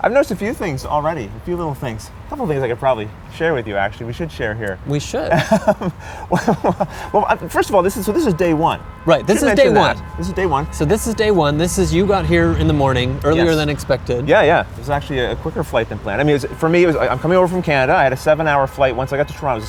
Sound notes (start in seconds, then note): 5.2 laughter